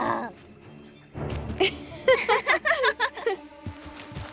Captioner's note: both laughing